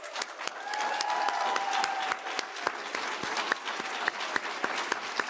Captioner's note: audience applauding